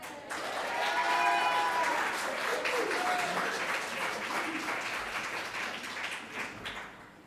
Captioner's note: audience applauding; audience cheering